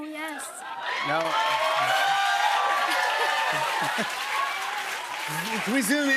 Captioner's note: cheers and applause